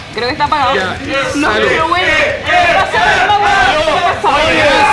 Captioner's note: cheers